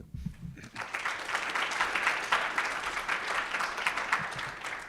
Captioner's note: audience applauds